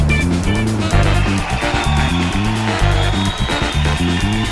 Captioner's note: audience cheering and applauding